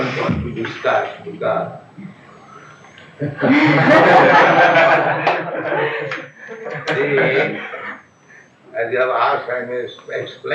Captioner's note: laughs; laughter